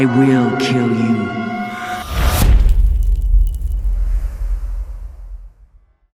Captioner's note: impact